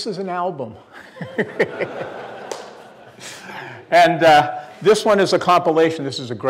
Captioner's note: laughs